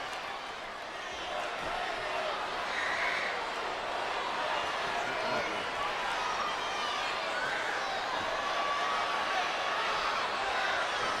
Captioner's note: applause